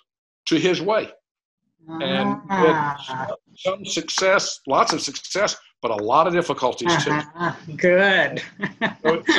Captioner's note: laughter